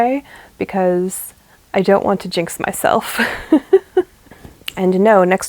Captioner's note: laughs